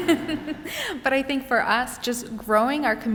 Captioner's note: laughter; laughs